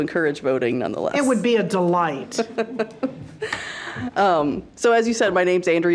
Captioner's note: laughing